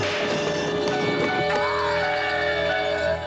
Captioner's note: muffled scream